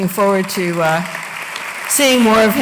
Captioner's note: applause